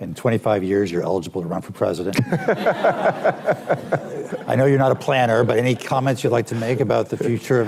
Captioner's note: laughter